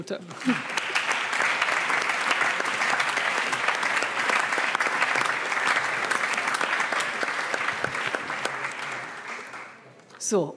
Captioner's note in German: Allgemeiner Beifall